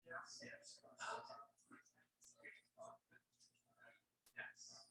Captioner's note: people chattering indistinctly